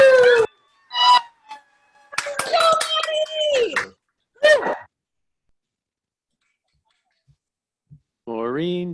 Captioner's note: cheering